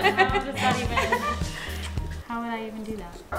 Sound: laughing; lip smacking

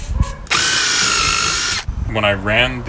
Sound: drilling noise

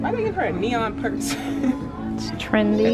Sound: laughs

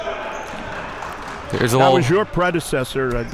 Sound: applauding

